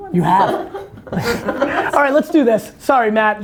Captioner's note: group laughter